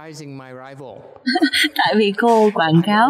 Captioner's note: laughter